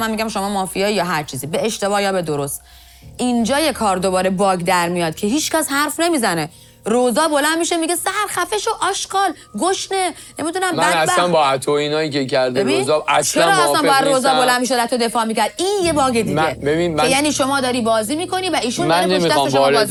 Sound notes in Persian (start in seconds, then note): none